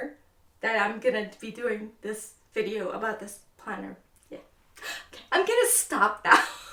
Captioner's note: laughs